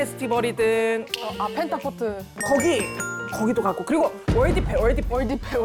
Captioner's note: sound effect: escalating ideas